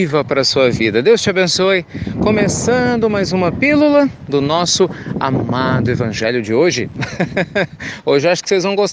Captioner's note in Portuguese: Risos